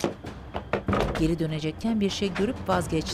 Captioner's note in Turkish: Kapı sesi